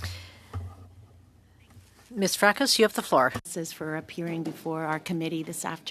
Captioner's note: speaking French